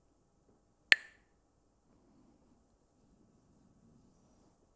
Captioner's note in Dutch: klakt met stokjes